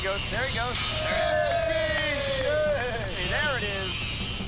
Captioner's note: all cheering